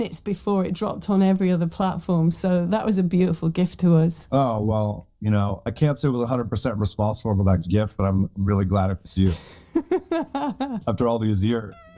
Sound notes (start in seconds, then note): 10.1 laughs